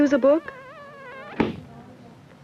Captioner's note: slam!